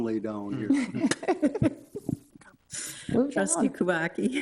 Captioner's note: both laughing